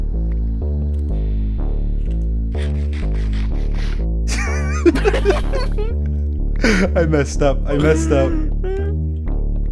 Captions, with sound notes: [laughing] [laughing] [laughing] [laughing] [laughing] [laughing] [laughing] [laughing] [laughing] [laughing] [laughing] [laughing] [laughing] [laughing] [laughing] [laughing] [laughing] [laughing] [laughing] [laughing] [laughing] I messed up. I messed up. I messed up. I messed up. I messed up. I messed up. I messed up.